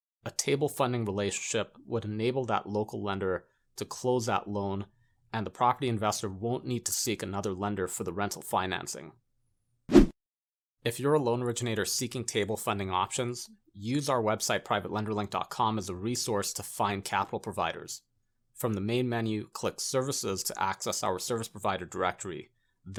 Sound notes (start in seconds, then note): 9.9 graphic whooshing